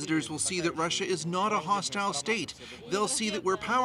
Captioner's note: speaking russian